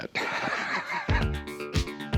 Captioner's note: laughs